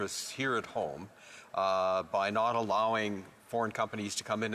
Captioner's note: speaking French